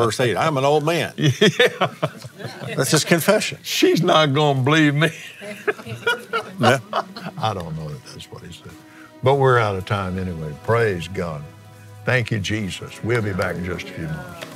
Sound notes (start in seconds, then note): 7.3 laughs